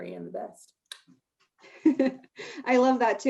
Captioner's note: chuckles